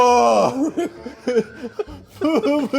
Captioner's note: laughing